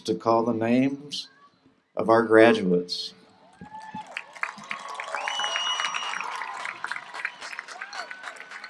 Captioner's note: applause